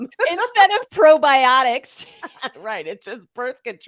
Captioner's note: laughs